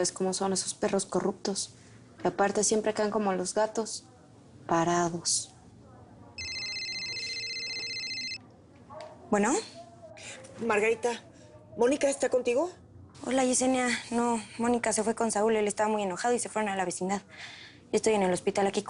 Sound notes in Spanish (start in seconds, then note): 6.4 Suena el celular